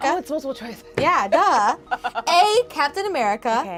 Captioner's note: laughs